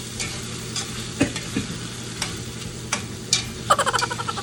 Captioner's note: coughs; coughs again